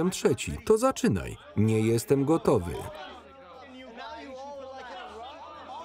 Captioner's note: men arguing over one another